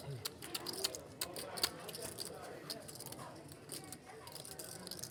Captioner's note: poker chips clacking